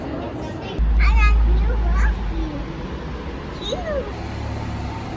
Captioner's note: toddler babbles